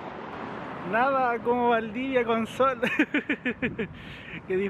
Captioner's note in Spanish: risas